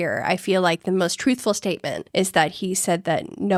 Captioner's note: none